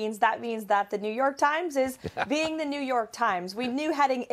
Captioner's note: laughter